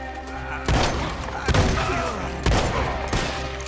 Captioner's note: grunts